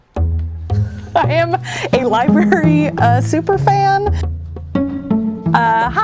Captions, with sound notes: - (laughing) I am a library super fan. (playful cheerful music)